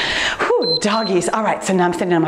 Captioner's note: timer beeps